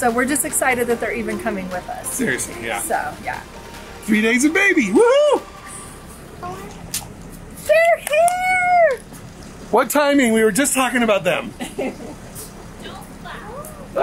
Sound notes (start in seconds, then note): 11.6 laughs